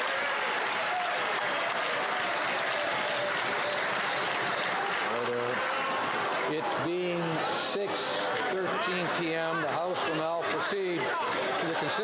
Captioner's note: applause